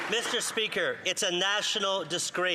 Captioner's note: some Applause